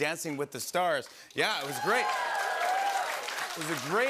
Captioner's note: cheers and applause